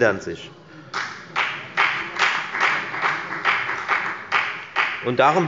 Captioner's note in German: Beifall bei der FDP